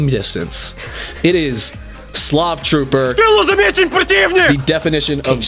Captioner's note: Angry Russian yelling